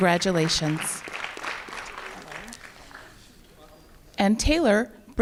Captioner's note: applause